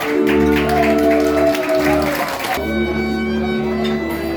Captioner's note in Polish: aplauz